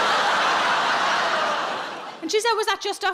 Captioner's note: audience laughing